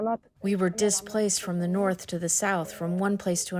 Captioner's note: through translator